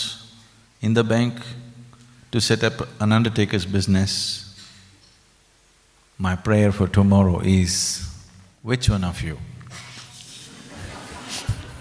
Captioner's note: laughter